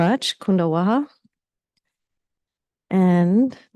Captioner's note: speaking in foreign language